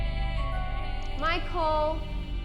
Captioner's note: text chiming